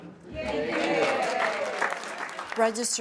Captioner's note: all applauding